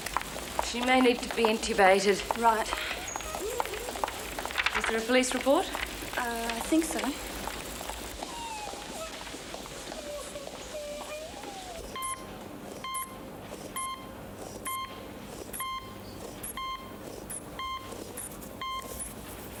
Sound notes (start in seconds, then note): 8.8 student crying; 12.8 machine beeping